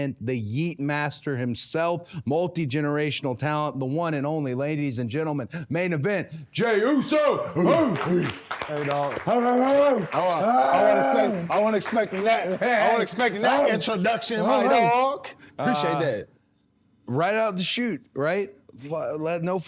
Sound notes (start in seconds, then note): 7.7 both barking and clapping; 10.7 Cody Rhodes yelling